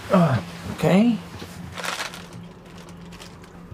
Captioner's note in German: Knistern